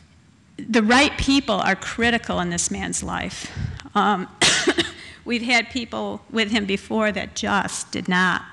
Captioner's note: cough